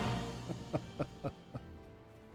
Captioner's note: laughs